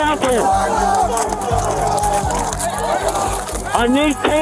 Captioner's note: shouting